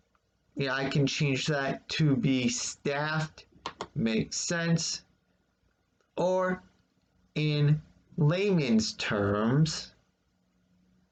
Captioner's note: click of trackpad